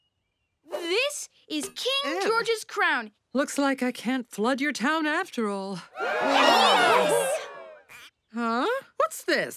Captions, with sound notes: This is King George's crown. Looks like I can't flood your town after all. [cheering] Huh? What's this?